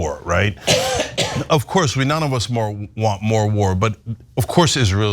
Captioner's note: cough